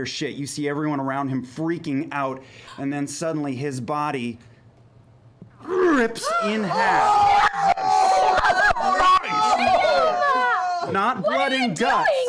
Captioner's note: shouting over each other